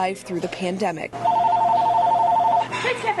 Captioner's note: phone ringing